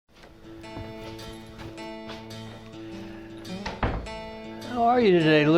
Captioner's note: door Opening; feet Shuffling